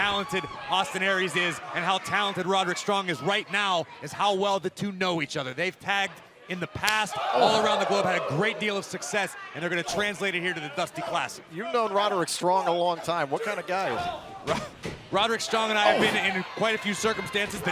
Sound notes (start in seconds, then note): 2.6 crowd chatter